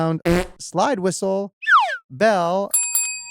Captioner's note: whoopee cushion farts; slide whistle trills; bell rings